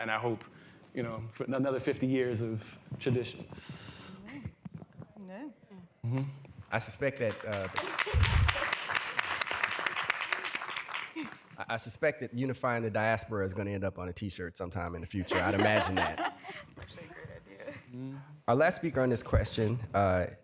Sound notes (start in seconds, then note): 7.0 applause; 15.2 laughter